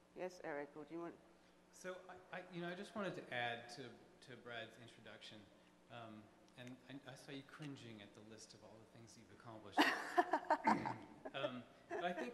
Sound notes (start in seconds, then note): 2.9 voiceover; 9.8 laughs